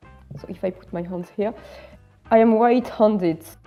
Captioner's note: muttering